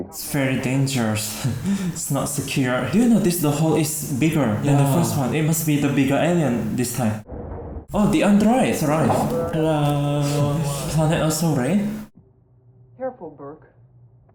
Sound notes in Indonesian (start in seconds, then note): 9.5 Hudson On Radio